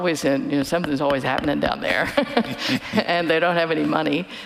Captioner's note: laughing